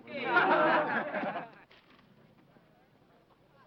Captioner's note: men laughing